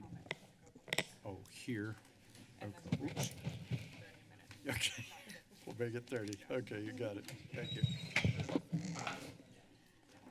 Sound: background conversations

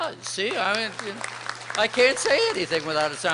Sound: applause

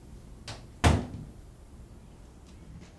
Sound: door closes

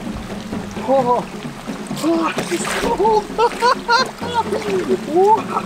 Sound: laughing

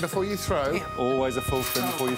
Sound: whistle blows

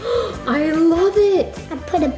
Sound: gasps

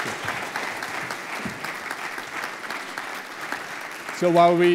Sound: applause continues

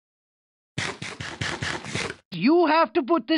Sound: minecraft eating noises

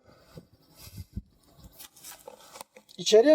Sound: wind sound

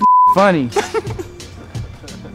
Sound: laugh

